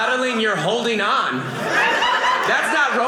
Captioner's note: audience laughing